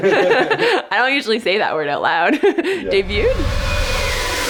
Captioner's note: all laughing; upbeat music; laughs